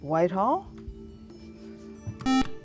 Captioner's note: buzzer